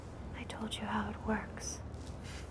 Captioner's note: none